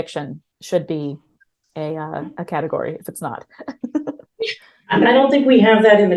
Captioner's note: chuckles